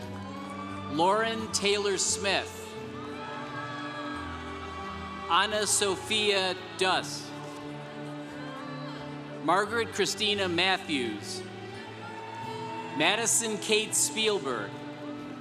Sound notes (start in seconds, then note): 0.3 congregation cheering; 3.1 congregation cheering; 7.6 congregation cheering; 12.0 congregation cheering